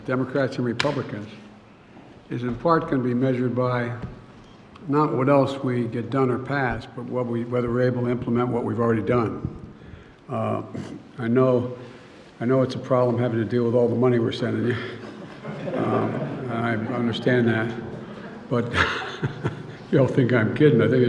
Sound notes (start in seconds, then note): 14.7 laughter; 18.9 laughs